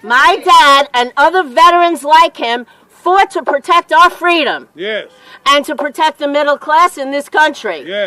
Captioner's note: chanting